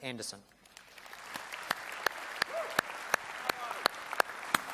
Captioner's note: applause and cheers